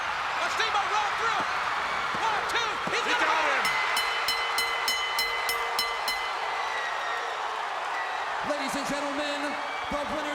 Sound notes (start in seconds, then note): 3.6 bell rings